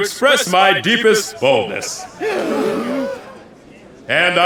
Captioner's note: gasps